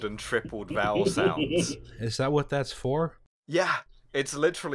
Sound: laughter

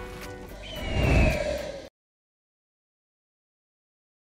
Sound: eagle screech

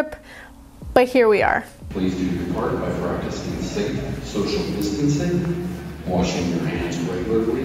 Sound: airport Announcement

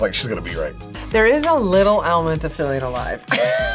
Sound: laughs

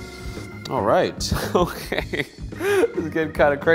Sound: laughs

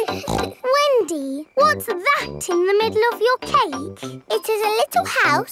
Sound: snorts

